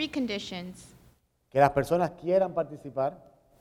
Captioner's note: speaking in Spanish